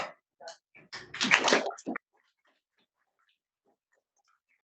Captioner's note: audience applauds